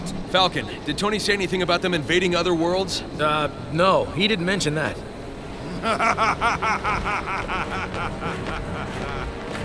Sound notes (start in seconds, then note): 5.6 evil laughter